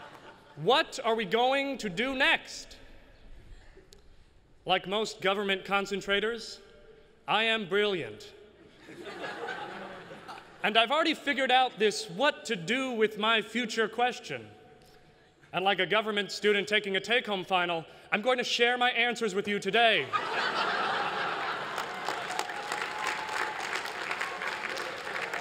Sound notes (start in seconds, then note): 0.0 laughter; 20.0 laughter; 21.3 applause